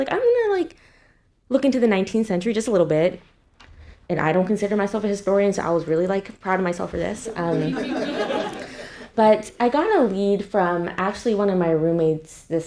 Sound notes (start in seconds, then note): 7.2 attendees laughing